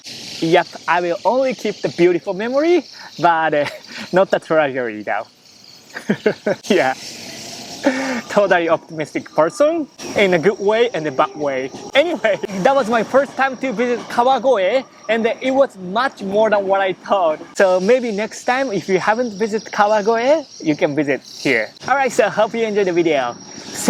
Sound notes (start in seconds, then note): 5.8 chuckles